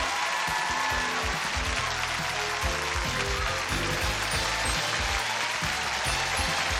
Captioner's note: applause and cheers; theme music playing